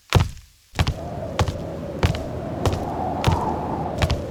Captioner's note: steps thudding; wind whooshing